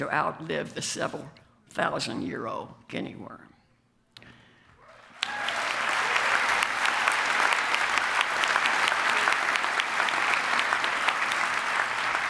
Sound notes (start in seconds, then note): 4.9 applause